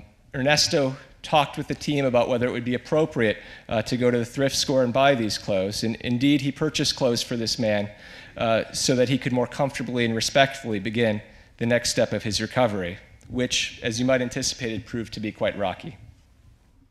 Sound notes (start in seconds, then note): none